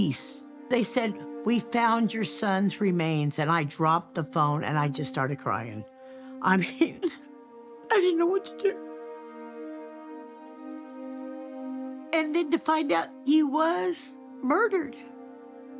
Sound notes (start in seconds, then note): 9.6 sobs